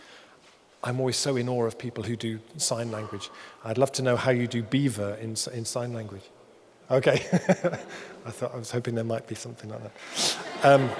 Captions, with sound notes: I'm always so in awe of people who do sign language. I'd love to know how you do beaver in sign language. Okay, (laughs) I thought, I was hoping there might be something like that.